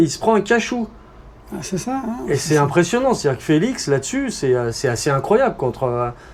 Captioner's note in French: rires